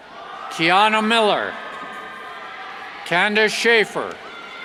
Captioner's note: cheers